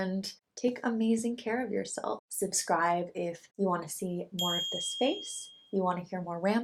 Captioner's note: bell dings